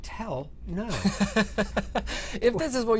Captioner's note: laughter